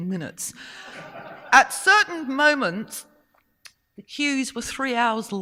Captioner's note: audience laughing